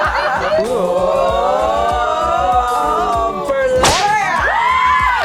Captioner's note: everyone laughs in good fun; sexy sounds